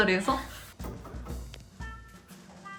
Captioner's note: knock knock